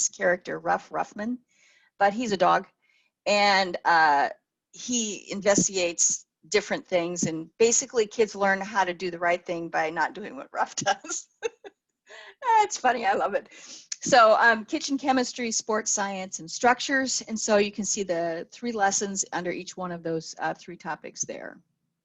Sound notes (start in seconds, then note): 10.8 laughs